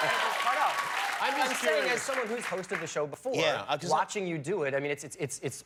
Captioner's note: cheers and applause